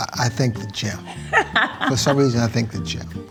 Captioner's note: laughs